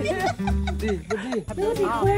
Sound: is laughing too hard

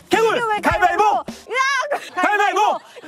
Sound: shout

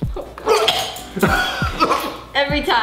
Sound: father gags

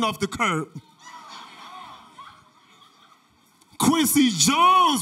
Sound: audience laughter

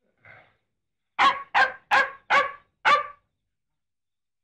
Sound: dog barking

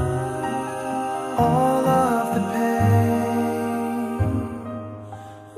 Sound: ahhhhhhhh; uhhhhhhhh

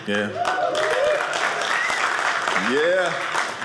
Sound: audience cheering

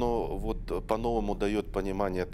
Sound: speaking foreign language

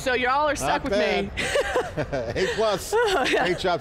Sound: all laugh

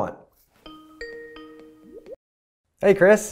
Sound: phone ringing

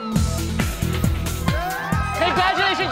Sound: cheers

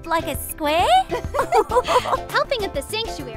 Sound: girls laugh

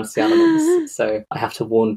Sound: gasps theatrically

